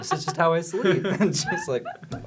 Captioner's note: laughter